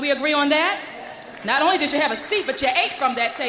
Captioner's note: applause